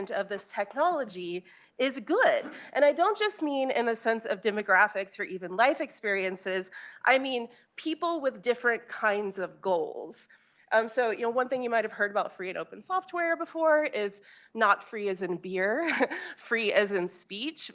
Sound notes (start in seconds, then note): none